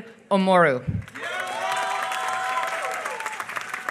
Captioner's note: applause